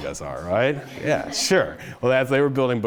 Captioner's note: audience chuckling